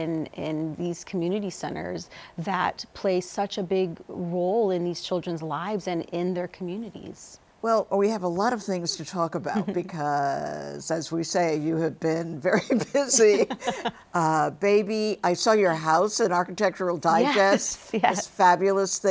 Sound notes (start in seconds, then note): 12.6 both laughing